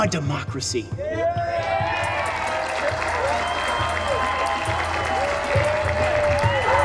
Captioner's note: cheers